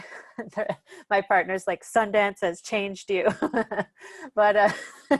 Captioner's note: laughs